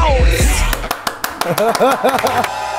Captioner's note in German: Dröhnende Musik; Lachen